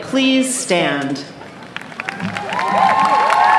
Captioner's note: clapping